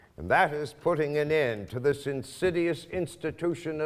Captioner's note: none